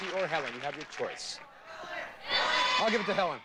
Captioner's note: audience cheering